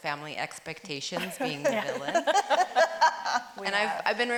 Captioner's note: laughs